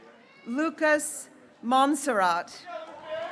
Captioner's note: graduates cheering